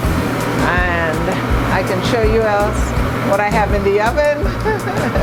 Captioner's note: laughs